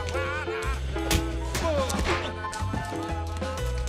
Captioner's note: scatting; beating continues